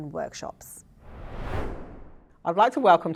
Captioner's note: screen swooshing